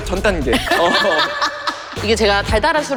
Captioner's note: some bitter laughter…